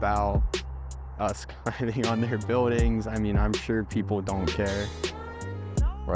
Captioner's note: laughing